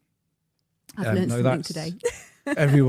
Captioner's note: chuckles